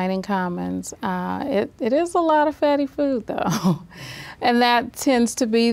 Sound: laughs

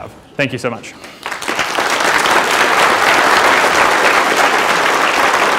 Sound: applause

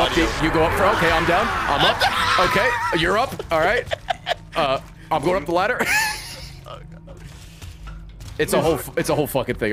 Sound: laughs

